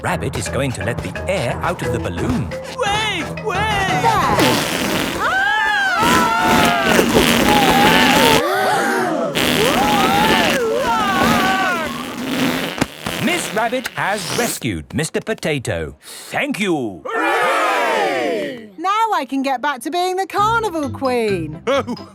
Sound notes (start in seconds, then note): 5.3 both screaming; 9.3 crowd gasps; 9.5 screaming